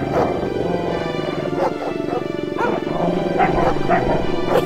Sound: זאבים נוהמים

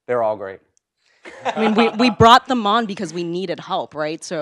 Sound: laugh

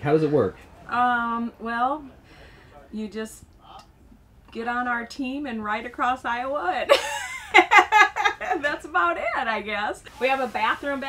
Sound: laughter

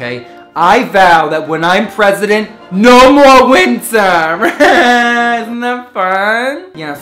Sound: laughing

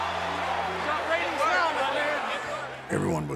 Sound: indistinct chatter

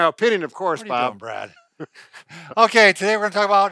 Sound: laughs

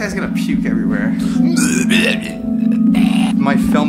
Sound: fake pukes

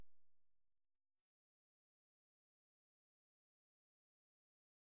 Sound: silence

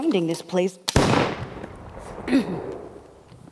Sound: gunshot

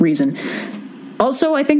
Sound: breathes in

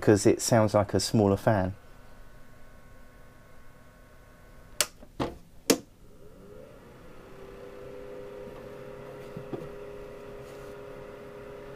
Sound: fan noise

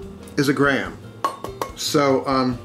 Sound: banging

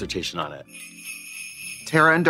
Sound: sleigh bells jingling

